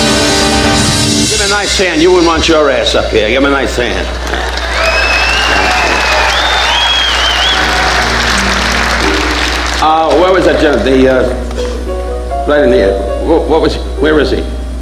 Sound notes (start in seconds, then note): 3.4 audience applauding; 7.2 pianist playing quietly